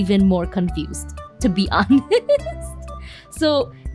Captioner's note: giggle